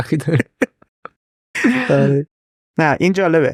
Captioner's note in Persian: خنده